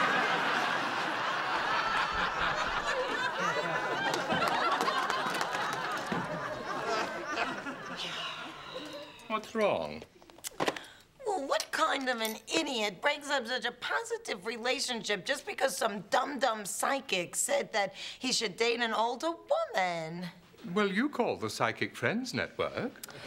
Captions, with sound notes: ( laughter ) ( sighs ) What's wrong? What kind of an idiot breaks up such a positive relationship just because some dumb dumb psychic said that he should date an older woman? Well, you call the Psychic Friends Network.